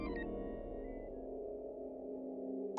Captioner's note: none